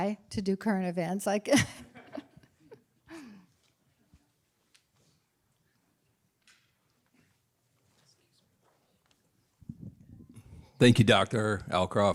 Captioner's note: laughter